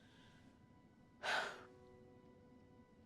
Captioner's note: sighs